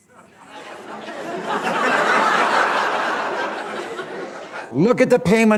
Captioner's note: laughter